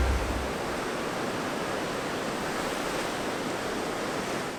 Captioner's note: ocean waves crashing